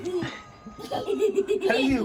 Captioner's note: laughter